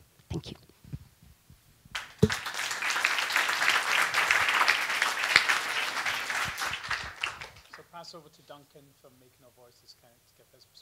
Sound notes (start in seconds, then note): 1.9 applause